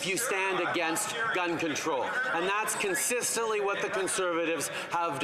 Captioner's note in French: voix de l'interprète